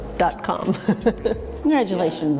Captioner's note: laughs